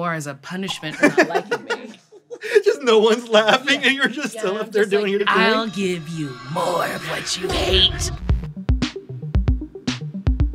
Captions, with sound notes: as a punishment for not liking me." [laughs] Just no one's laughing and you're just still up there doing your thing. Yes, I'm just like, "I'll give you more of what you hate."